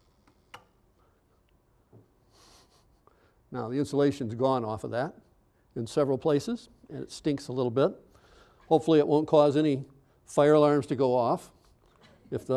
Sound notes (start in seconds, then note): 0.2 machine clicking off; 2.4 chuckling